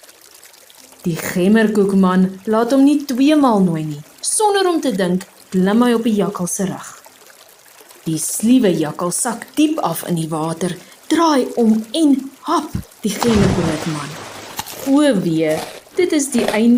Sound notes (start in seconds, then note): none